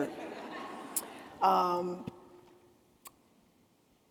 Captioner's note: attendees laughing